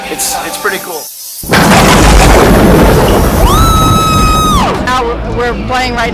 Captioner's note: bat wings and thunder clap